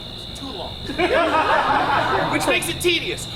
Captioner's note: audience laughs